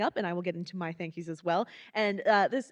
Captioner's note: none